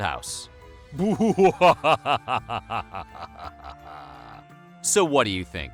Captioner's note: laughter